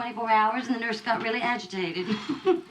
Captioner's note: chuckles